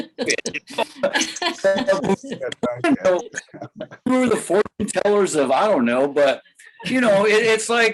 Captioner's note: laughter